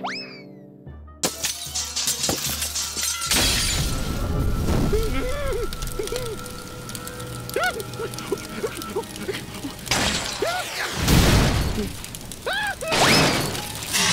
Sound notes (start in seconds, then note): 1.0 light bulbs shattering; 3.6 fire crackling; 4.9 whimpering; 7.5 blowing